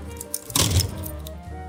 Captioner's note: slam